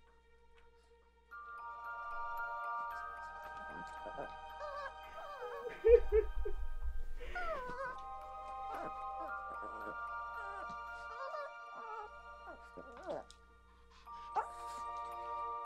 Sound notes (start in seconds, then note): 5.3 human cries